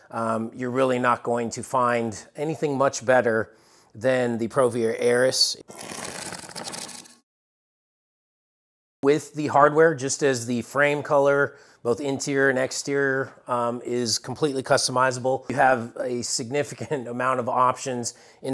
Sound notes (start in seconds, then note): 5.6 cardboard ripping